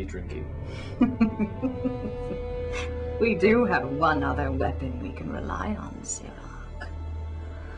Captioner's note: laughing